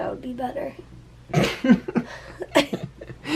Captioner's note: laughter